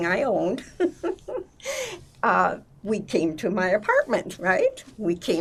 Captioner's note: laughing